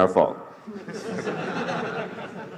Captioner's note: laughter